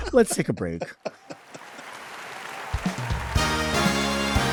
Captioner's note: audience applauds; upbeat music begins